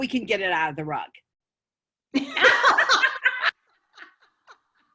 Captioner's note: laughter